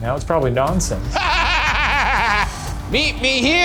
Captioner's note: laughing hysterically